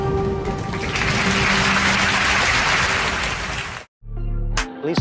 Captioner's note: applauses